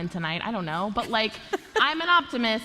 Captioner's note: laughter